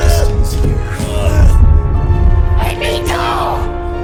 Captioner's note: Willard groans